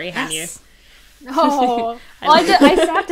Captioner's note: hosts laugh